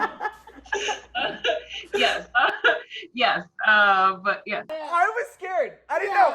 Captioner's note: laughs